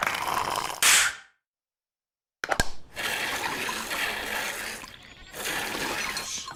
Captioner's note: animal bells ring